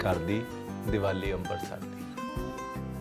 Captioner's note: speaks in Punjabi